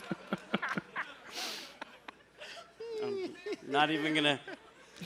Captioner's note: laughter